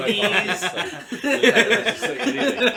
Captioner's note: laughter